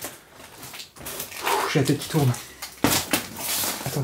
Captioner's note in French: souffle